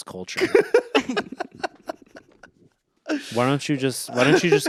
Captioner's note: Anthony laughs